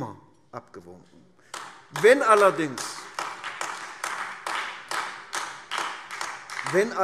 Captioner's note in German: Beifall AfD